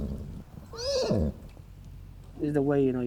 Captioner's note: horse whinnies